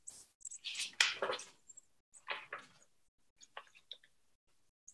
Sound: papers rustling

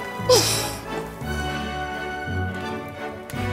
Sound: laughs

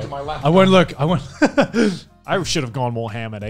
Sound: laughs

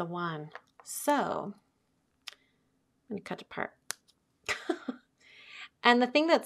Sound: chuckling

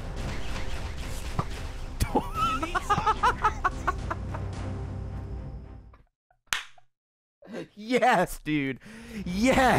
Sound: Minecraft bow noise; laughs

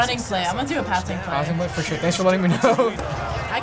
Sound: laughs

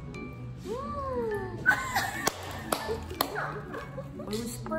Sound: laughs

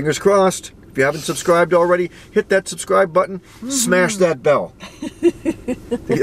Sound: chuckles

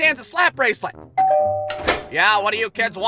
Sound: door bell rings

